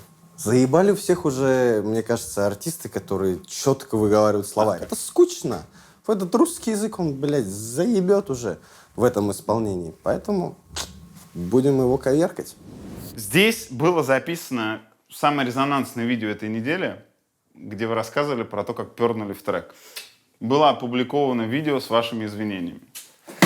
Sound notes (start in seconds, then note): 5.9 in Soviet Central Asian accent